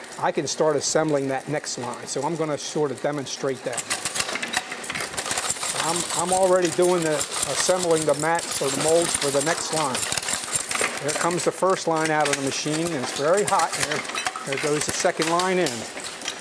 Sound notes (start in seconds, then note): 5.1 type noise